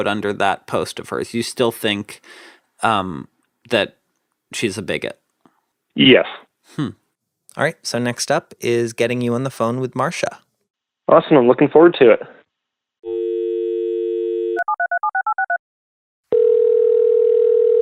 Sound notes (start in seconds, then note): 13.4 phone dials; 16.3 phone rings